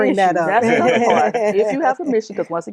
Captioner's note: laughter